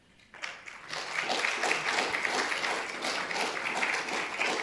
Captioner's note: audience applauding